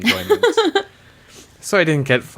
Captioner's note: laughs